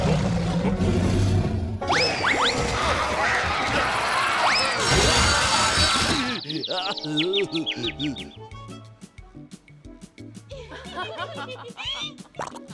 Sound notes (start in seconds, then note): 0.0 rabbits growling; 2.5 buzz saw grinding; 5.2 crashing; 5.6 birds tweeting; 7.7 groaning; 10.5 contestants giggling